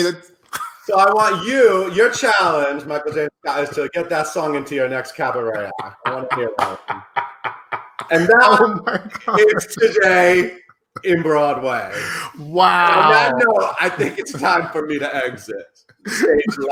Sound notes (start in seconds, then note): 6.6 laughing